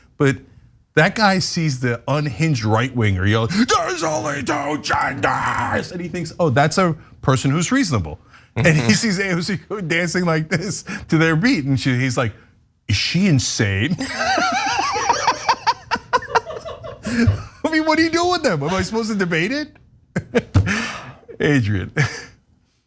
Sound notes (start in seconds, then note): 14.0 laugh